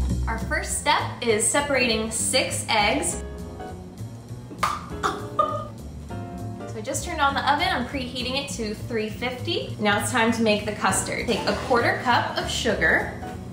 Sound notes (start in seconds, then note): 4.6 egg plops; 5.0 giggles